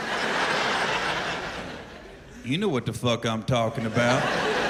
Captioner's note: laughter